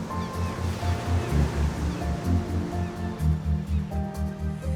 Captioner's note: waves crash; calm music